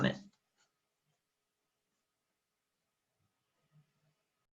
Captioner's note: silence